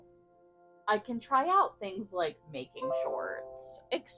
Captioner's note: computer chimes, rudely interrupting my thought